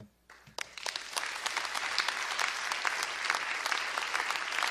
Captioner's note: crowd applauding